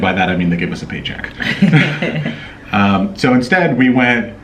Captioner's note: laughing